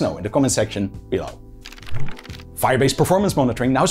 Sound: pages flipping

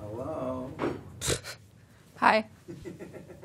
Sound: scoffs; laughs

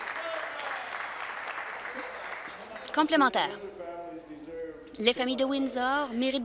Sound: applause

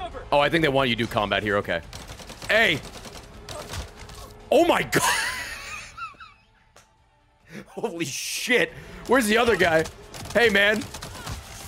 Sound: laughs

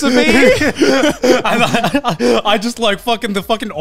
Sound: chuckling

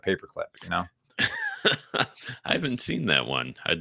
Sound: laughs

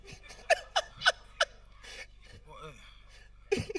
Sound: host laughing

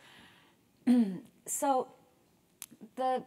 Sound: cough

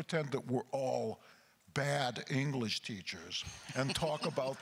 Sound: crowd laughter

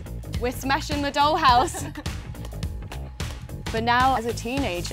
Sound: laughing

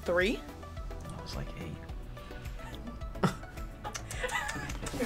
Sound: laughs; React laughs

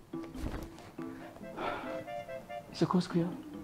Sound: sigh

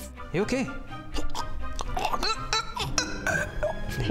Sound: choking noises

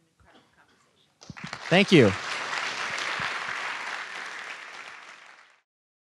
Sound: applause

